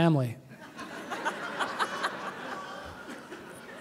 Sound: laughter

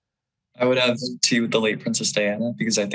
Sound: none

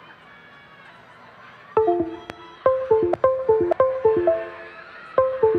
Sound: cheering

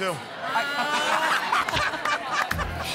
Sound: laughter

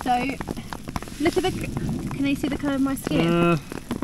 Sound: water splashing

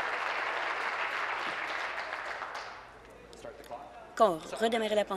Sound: applause

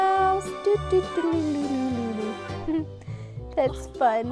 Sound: narrator makes fun noises

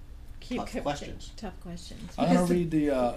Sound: voiceover

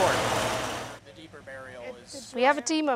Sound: chatter

